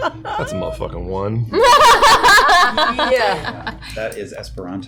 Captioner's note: laughter